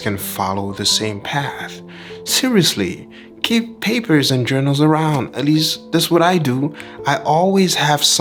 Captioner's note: laugh